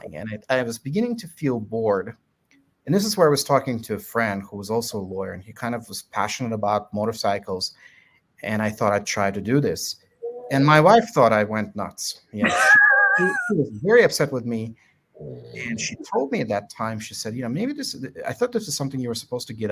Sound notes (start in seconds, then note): 12.8 chuckles